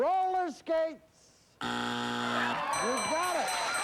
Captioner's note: buzzer